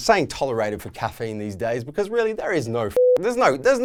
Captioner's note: beep